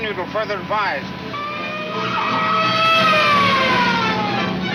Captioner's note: police siren blares; exciting music